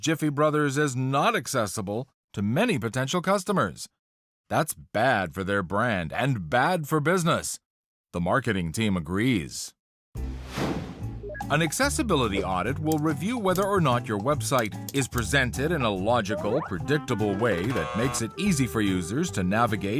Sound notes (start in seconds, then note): 8.2 jazz music; 17.6 buzzer